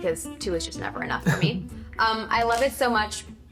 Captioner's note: chuckling